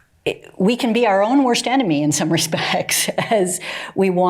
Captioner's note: chuckling